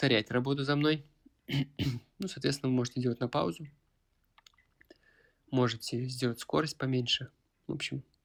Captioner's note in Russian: откашливается